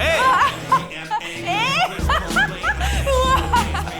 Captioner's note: laughing